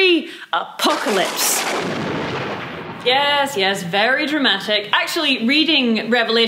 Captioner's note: thunderclap